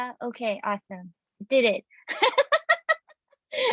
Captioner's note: laughing